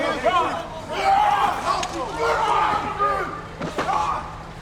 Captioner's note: Braun screaming